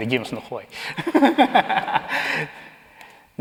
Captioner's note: laughs